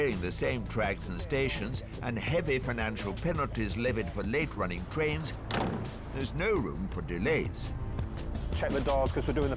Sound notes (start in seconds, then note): 5.4 door banging